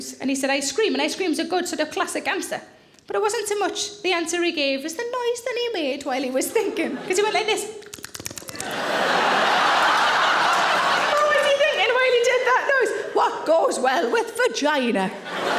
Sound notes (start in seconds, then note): 7.8 laps lips repetitively; 8.5 audience laughing; 15.1 audience laughing